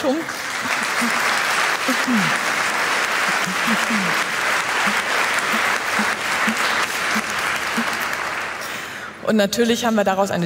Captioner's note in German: Applaus